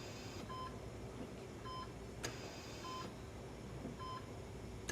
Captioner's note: machines beeping